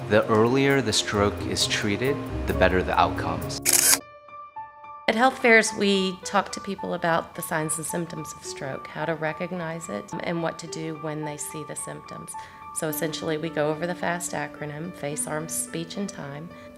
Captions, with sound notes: The earlier the stroke is treated, the better the outcomes. (camera clicks) (gentle piano music) - At health fairs we talk to people about the signs and symptoms of stroke. How to recognize it and what to do when they see the symptoms. So essentially we go over the FAST acronym Face, Arms, Speech and Time,